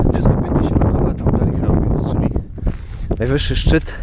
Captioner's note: wiatr